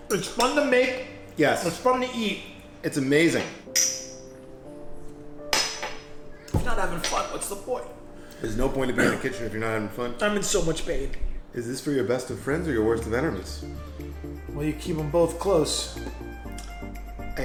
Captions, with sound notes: It's fun to make. - Yes. - It's fun to eat. - It's amazing. (shot glasses clink) (shot glass thuds) - If you're not having fun, what's the point? - There's no point in being in the kitchen if you're not having fun. - I'm in so much pain. - Is this for your best of friends or your worst of enemies? - Well, you keep 'em both close. (chill music)